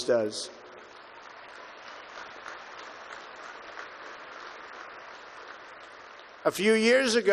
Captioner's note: applause